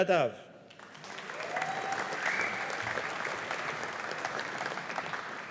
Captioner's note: audience applauding